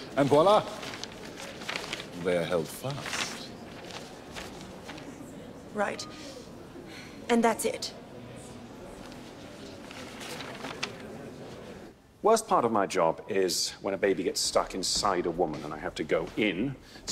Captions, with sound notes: And voila, they are held fast. - Right, and that's it? (paper rustling) - Worst part of my job is when a baby gets stuck inside a woman and I have to go in,